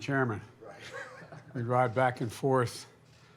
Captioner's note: laughs